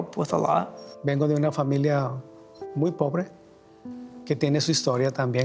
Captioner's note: speaks in Spanish